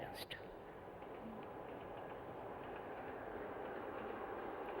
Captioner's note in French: Bruit de train